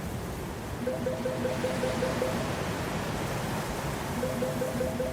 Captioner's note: phone ringing